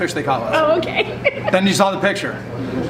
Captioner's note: laughs